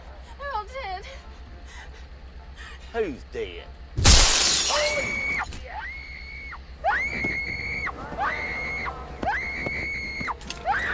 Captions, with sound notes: - They're all, they're all dead. - Who's dead? (glass breaks) (girl screaming) (ominous orchestral music)